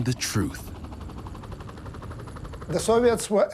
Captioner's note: engine roaring